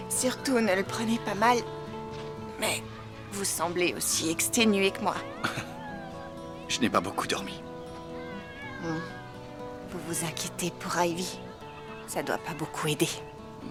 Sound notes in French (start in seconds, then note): 5.3 rires